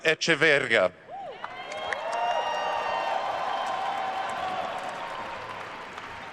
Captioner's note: attendees cheering and applauding